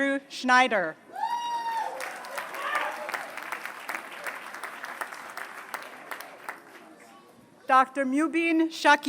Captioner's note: applause